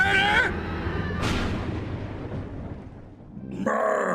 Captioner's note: horror scream and thunder crash sfx